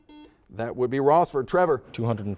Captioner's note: series of beeps